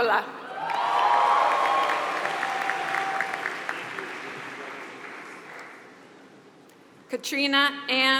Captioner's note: applause